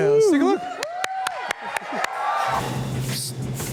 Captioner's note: applause